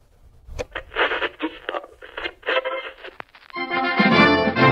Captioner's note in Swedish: Radiovågs skrap